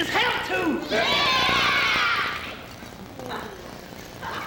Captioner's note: voicing agreement